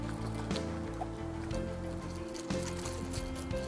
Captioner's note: rattling